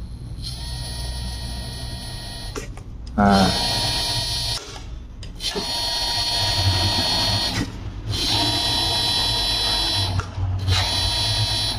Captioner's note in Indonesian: suara dinamo motor servo berputar